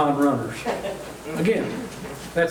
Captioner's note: chuckling